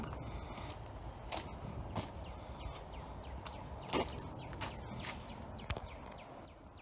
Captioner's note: birds chirping; footsteps tapping